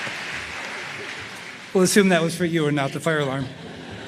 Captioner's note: applause